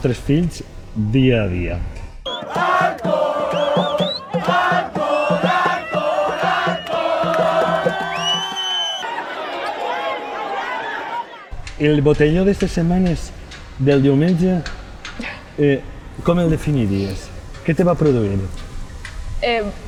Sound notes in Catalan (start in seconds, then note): 2.8 GENT CRIDANT: ”Alcohol, alcohol, alcohol, alcohol…”